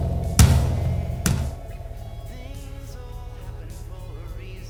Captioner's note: ghost roaring